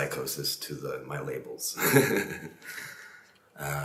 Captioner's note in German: lacht